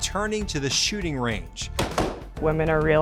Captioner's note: gun firing